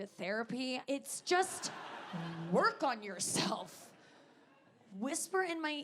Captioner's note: audience laughing